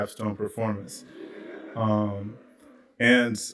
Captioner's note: laughter